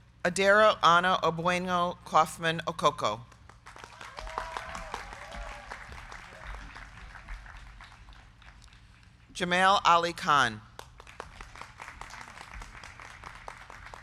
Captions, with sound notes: Adero A. Kauffmann-Okoko. (crowd cheering) (crowd clapping) Jamail Ali Khan. (crowd clapping)